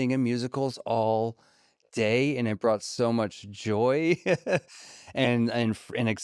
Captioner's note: laughs